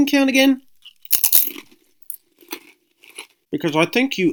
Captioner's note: crunch